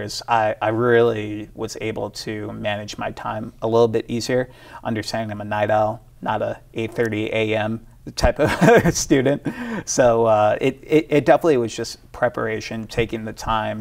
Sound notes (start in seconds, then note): 9.8 laughs